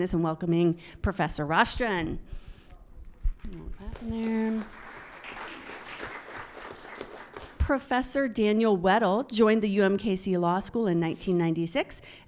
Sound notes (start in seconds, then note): 5.4 audience applauds